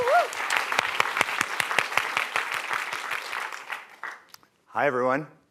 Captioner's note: applause